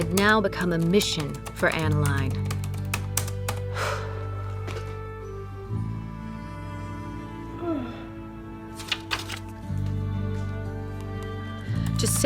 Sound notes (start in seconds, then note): 3.6 exhales; 7.6 yawning